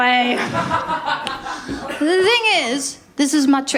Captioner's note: laughter